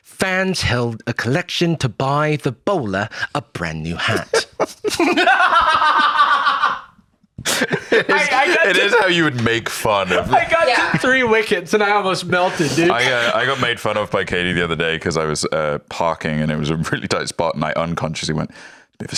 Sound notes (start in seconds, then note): 4.0 laughs